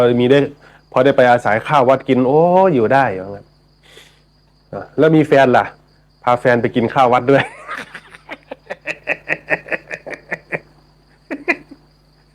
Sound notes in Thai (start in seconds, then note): 7.4 เสียงหัวเราะ